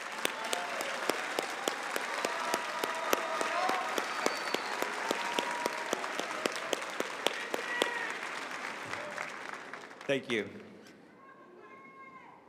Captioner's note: applause